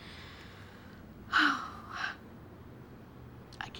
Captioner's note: exhales heavily